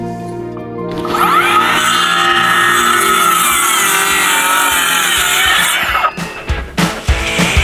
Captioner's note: sawing